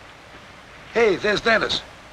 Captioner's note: none